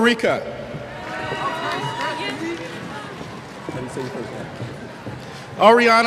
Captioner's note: cheers